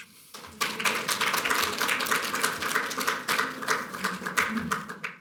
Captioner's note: applause